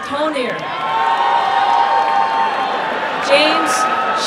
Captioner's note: applause and cheering